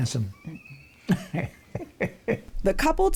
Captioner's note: laughs